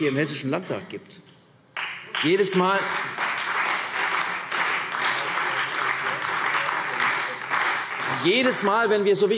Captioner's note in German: Beifall CDU und Freie Demokraten